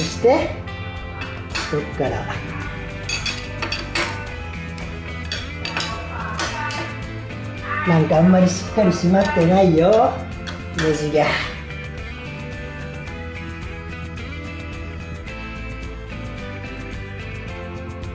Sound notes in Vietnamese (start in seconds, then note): 11.5 cười